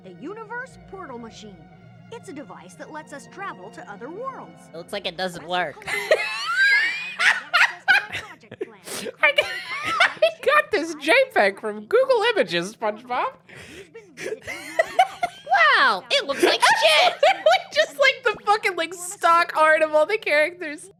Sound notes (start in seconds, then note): 5.8 laughing; 16.0 still laughing